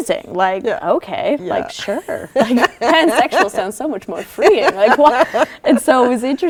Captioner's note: laughter